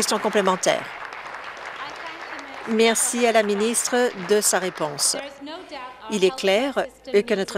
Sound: applause

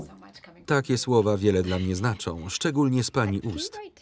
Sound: laughs

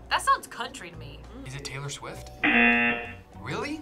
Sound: buzzer sounds

